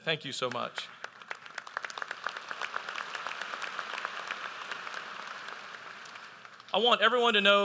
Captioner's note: applause